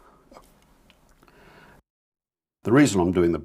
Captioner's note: silence